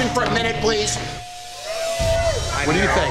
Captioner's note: patrons cheering